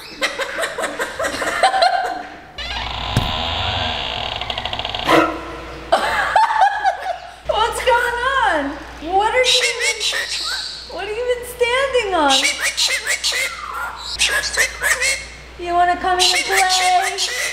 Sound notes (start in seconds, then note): 0.0 laughing; 2.6 door creaking; 5.9 laughing; 12.3 bird squawking